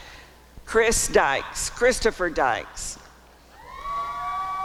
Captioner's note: applause and cheering